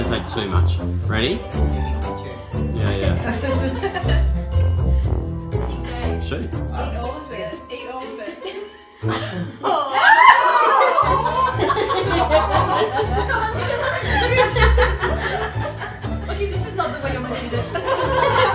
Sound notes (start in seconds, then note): 2.2 childlike music; 9.1 screams and laughs from crowd